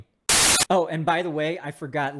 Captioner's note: TV static crackling